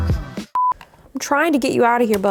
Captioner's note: beep